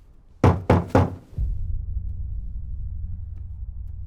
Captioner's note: knocks on door